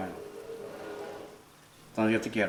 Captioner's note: Spanish; metal chair scraping on the ground; Spanish